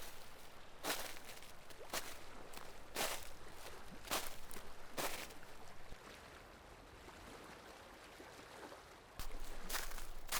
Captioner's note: stream gurgles; footsteps